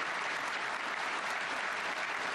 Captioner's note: applause